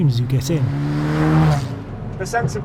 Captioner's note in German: Motorgeräusche werden lauter